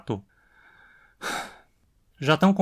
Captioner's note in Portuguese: suspiro